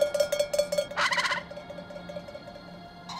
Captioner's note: ringing; squawks